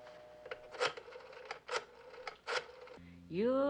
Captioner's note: dialing telephone